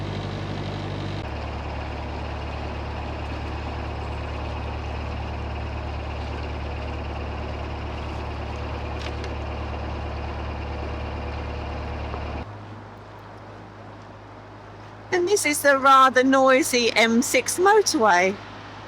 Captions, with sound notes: [Sound of a train passing by] [Sound of a train passing by] And this is a rather noisy M6 motorway.